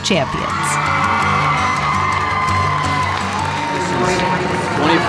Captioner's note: audience cheering